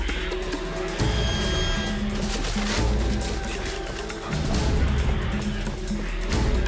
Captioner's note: dramatic suspenseful music; creatures screeching